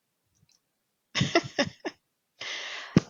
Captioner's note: chuckles